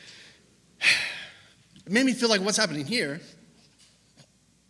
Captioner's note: sigh